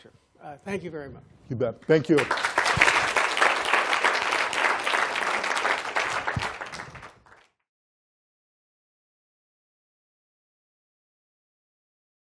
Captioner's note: applause